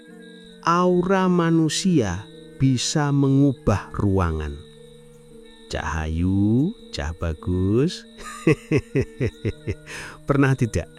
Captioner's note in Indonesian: tertawa